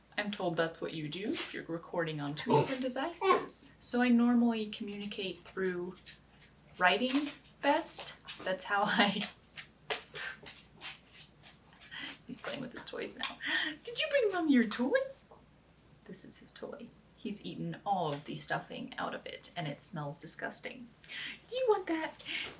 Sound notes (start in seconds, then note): 10.3 scuffling noises